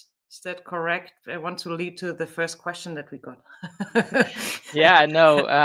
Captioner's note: chuckles